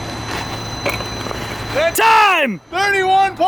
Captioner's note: wind blowing